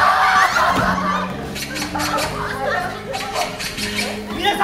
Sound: bird chirping in the distance

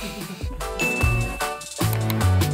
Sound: dinging; upbeat music

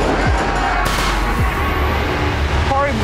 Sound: gunfire

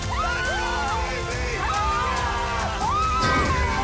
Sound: screaming

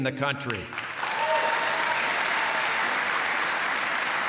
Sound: applause

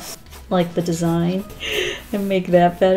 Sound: deep inhale

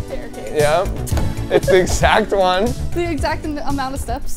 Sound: laughing

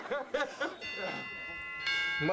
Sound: doorbell rings

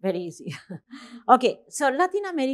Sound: chuckling

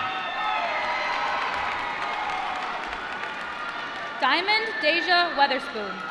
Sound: applause

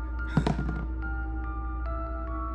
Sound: ominous music; container drops

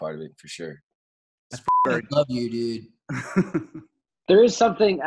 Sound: beep; laughing

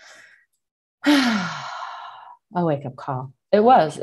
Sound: breathes deeply

